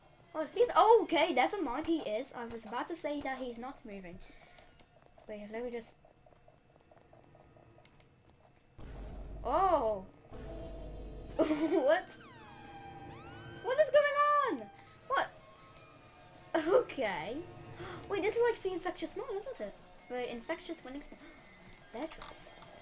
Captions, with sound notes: Oh he's no- OKAY NEVERMIND he is, I was about to say that he was not moving. Wait let me just... Ooah! whwhwhwhwhat? What is going on???? What- *laugh* okay. *gasp* wait this is like The Infectious Smile isn't it? The infectious Winning Smile. beartraps